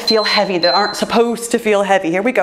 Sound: timer beeps

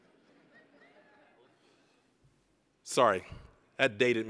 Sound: scattered laughing

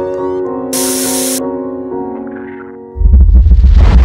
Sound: static sound; explosion

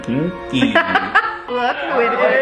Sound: laughing

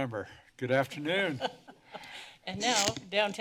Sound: laughter

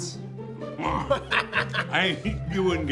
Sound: grunts; laughs

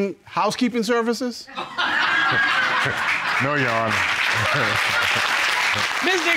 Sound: audience laughing; laughs

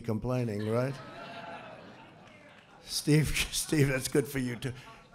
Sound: laughter; laughs

